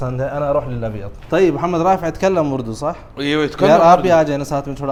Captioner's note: Arabic